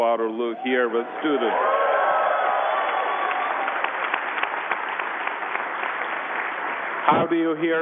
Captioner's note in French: Applaudissements